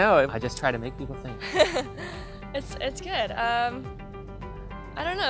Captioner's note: laugh